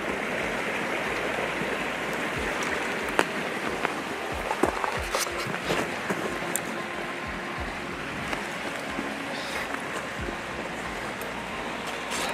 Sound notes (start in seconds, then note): 1.0 stream flowing; 4.2 footsteps thudding